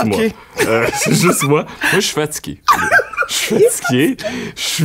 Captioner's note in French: éclat de rire